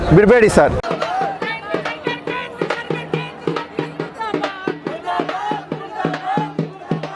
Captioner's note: crowd shouting slogans